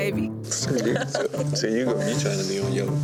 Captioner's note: woman laughing